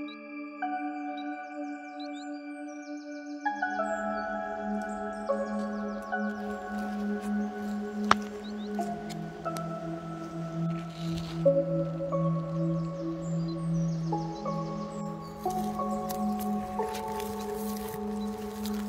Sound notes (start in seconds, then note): 0.7 distant birds singing; 7.7 footsteps